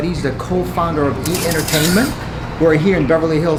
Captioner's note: camera shutter clicking